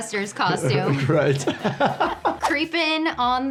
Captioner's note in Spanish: risas